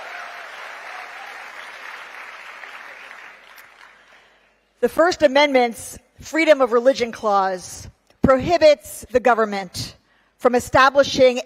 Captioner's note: cheering